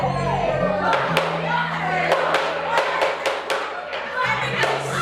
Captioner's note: varied rabble-rousing